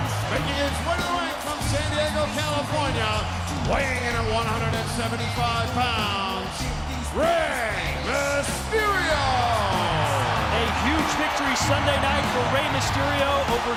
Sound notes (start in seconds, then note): 9.6 crowd cheering; 9.6 upbeat music continues